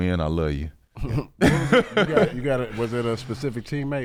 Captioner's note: laughing